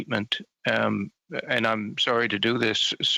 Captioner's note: speaking French